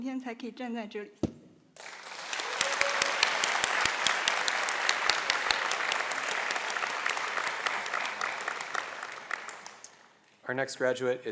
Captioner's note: applause